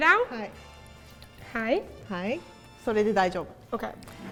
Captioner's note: speaking in Japanese